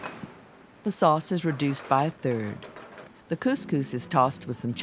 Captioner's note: voiceover